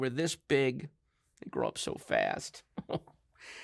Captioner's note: chuckles